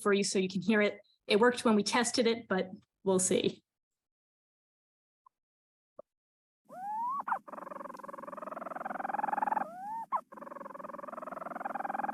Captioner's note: sound of storm petrel calling